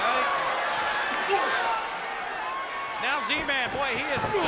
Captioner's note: spectators cheering